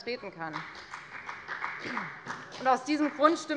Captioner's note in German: Beifall bei der FDP